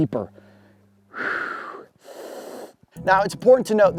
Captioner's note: exhales; inhales